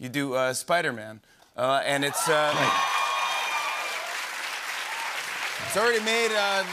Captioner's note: cheers and applause